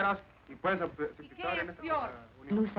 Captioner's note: speaking spanish